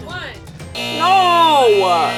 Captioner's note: buzzer